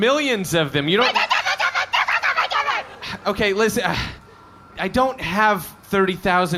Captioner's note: alien gibberish